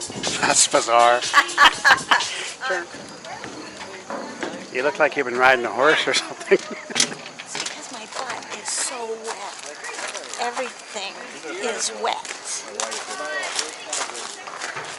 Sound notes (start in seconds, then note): 1.3 laughing; 6.4 giggles